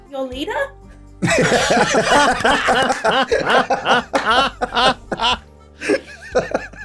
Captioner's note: laughs... knowing a true leader steps up!